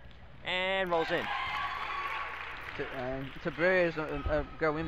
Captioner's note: crowd cheers